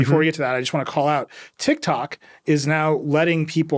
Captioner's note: none